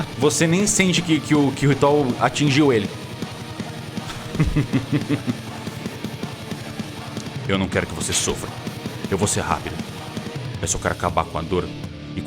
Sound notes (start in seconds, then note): 4.0 laughs